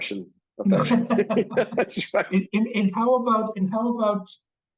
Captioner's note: both laughing